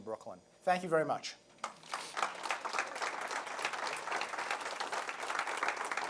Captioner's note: applause